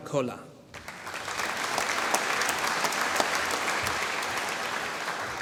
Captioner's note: applause